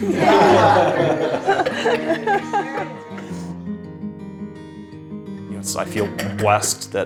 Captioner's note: everyone laughs